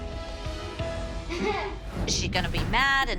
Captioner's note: laughs